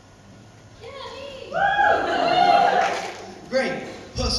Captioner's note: other audience members cheer